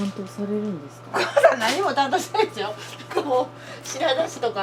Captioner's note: laughs